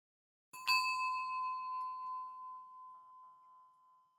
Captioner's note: bell rings